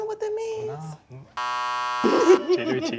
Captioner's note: buzzer